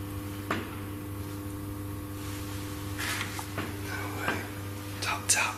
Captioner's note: strange tapping sound